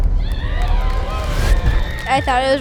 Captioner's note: cheering